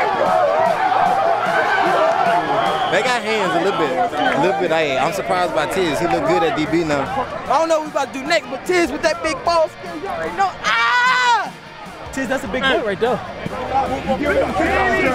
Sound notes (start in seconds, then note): 0.0 cheering; 9.8 yelling